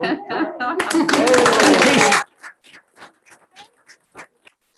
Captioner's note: group members laughing; group applauding